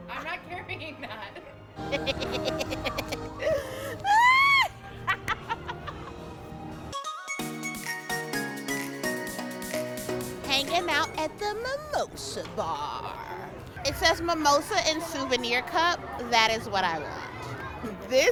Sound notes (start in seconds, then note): 1.8 laughs; 6.9 upbeat electronic music